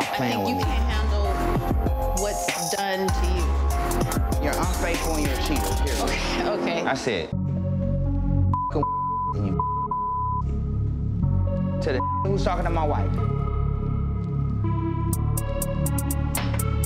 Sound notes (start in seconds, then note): 7.7 anxious electronic music; 9.5 beeps; 12.0 beep